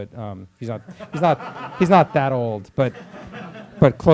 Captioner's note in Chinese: 课堂上笑声